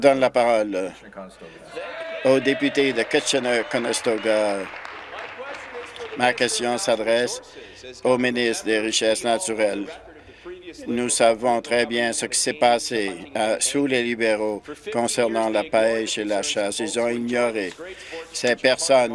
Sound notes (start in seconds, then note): 5.5 applause